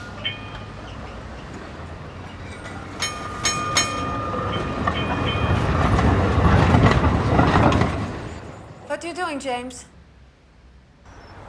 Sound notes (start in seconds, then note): 0.1 clang heard on phone; 2.3 clanging; 4.5 clanging heard on phone